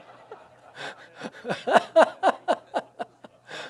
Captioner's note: audience laughs; laughs